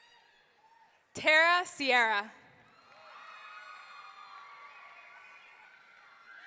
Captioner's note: audience cheering